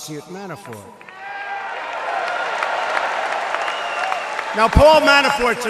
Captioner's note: applause